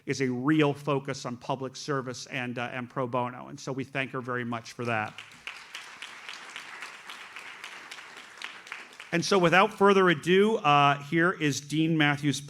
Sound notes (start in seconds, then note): 4.8 audience applauds